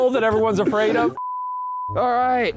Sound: screen beeps

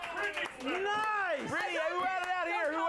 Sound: audience cheers

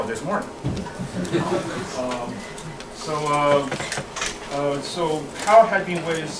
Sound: laugh

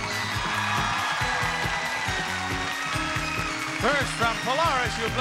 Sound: audience cheering

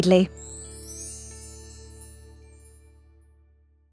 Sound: chimes tinkling

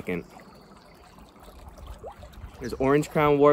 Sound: distant bird chirping

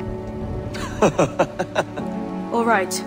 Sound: laughing

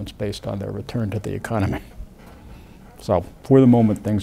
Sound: laughs

